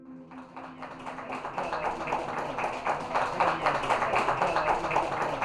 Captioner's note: audience clapping and cheering